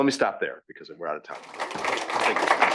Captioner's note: applause